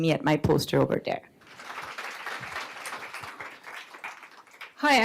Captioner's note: applause